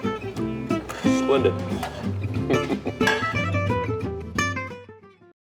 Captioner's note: laughs